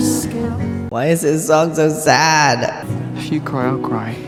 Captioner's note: echoing